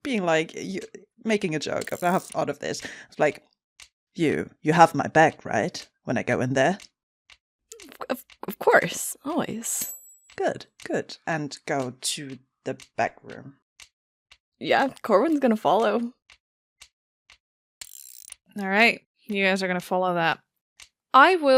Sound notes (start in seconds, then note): 17.8 ticking and mechanical whirring continues